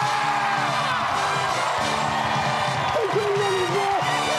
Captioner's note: cheers and applause